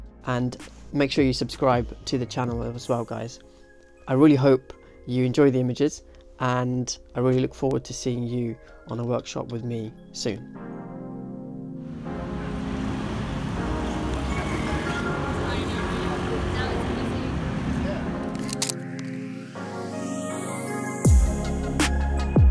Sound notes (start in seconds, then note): 11.0 upbeat music; 18.3 shutter clicks; 19.8 upbeat music